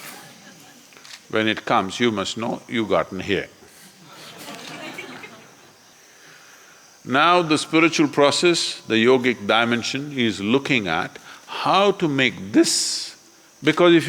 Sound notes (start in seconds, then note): 3.8 laughter